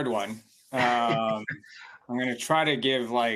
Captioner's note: chuckles